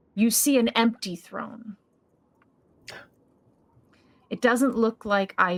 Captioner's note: none